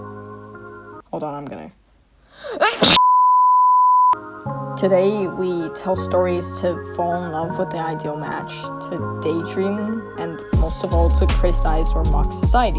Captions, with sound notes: Hold on, I'm gonna *sneezes* [Static] Today, we tell stories to fall in love with the ideal match, to daydream, and, most of all, to criticize or mock society.